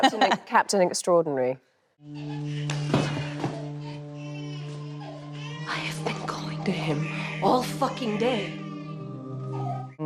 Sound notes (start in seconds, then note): 2.1 baby crying; 2.3 somber music